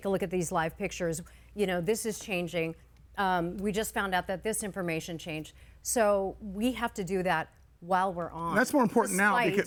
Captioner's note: none